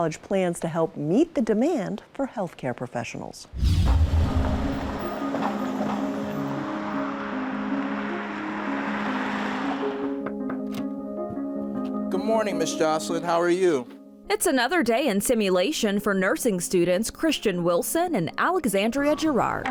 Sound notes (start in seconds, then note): 4.6 gentle music; 10.0 door knocks